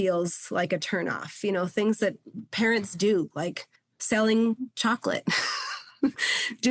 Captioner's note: chuckles